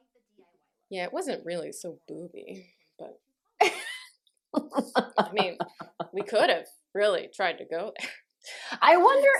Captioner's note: laughter